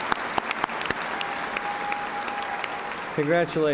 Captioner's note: cheers and applause